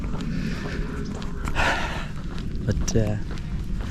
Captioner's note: sigh